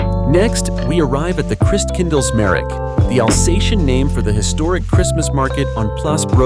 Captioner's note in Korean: 알자스 방언